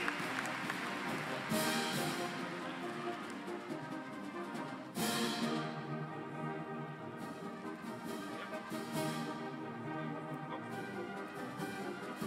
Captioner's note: applause